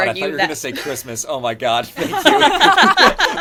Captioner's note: laughter